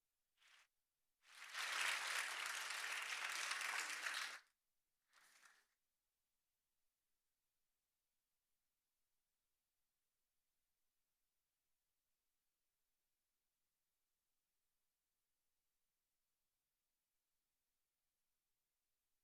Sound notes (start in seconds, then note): 4.4 applause